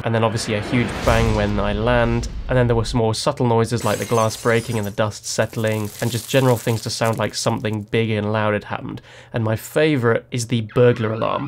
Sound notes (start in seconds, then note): 3.8 glass clatters